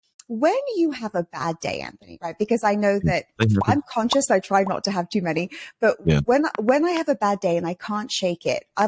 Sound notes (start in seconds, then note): 3.4 buttons popping